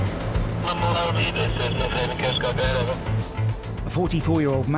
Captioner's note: radio chatter